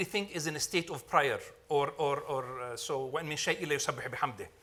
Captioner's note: speaking Arabic